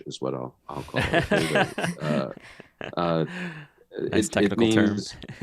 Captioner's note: laugh